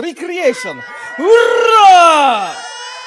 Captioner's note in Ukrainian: плач